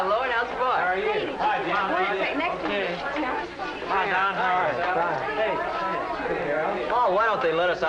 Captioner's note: friendly chattering